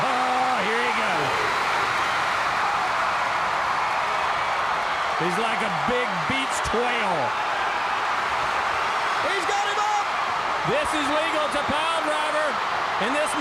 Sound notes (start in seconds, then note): 1.6 audience cheering